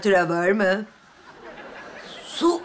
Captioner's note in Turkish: Gülme efekti